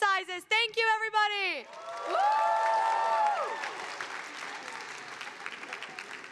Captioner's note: audience applauding